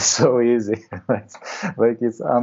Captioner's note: laughs